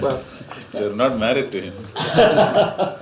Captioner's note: laughter; laughs